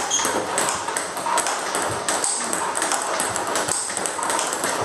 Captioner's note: ball ping pong hitting continues